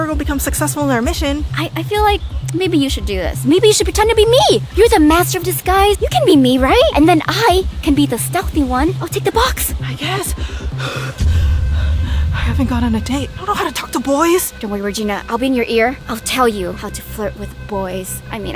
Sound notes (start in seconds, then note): 10.8 pants heavily